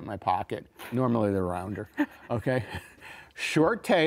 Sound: giggles

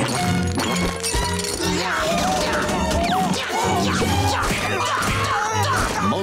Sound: grunting

